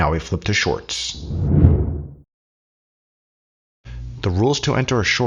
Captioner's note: air whooshing